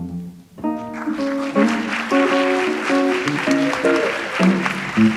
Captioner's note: audience applauds